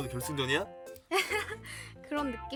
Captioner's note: nervous laughter